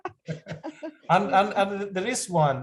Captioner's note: laughter